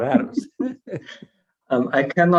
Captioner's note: chuckles